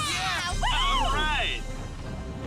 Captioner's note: cheering